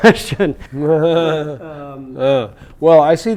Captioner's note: laughter